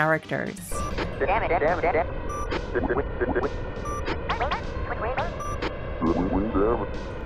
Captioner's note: Star Fox team speaking gibberish